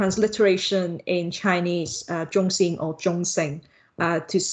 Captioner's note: Mandarin